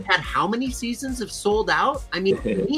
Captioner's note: giggles